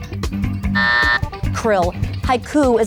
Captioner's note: timer buzzes